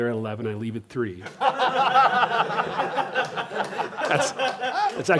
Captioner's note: laughter